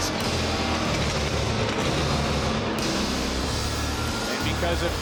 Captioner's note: upbeat music; crowd boos